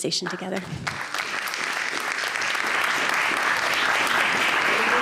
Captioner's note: applause